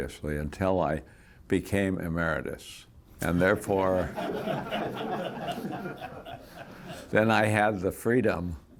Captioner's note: laughter